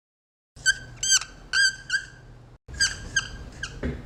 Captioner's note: squeaking